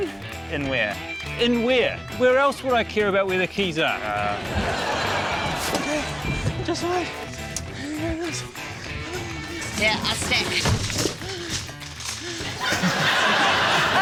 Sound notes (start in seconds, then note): 8.5 mumbles softly; 12.5 laughter